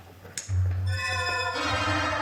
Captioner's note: switch clicks